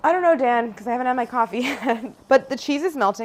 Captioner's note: laughs